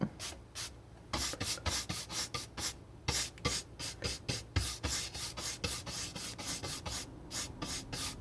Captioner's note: scratching